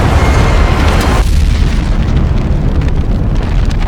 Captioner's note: explosion booms; spacecraft thuds; flames whooshing